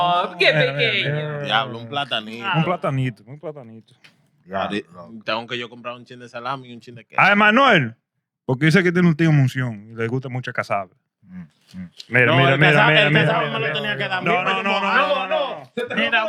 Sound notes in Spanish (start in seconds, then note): 2.5 Hablando en idioma extranjero